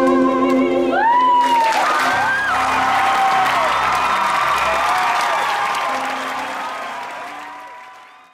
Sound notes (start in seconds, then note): 0.9 cheering from audience